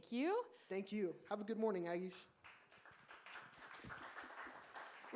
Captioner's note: applause